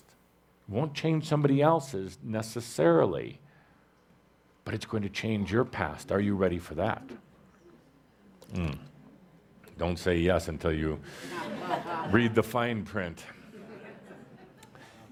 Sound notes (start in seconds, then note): 7.6 audience responds; 13.2 laughter